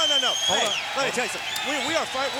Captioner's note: crowd cheering